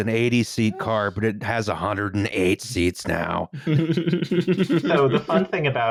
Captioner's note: giggles adorably